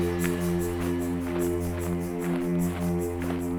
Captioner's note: snow crunching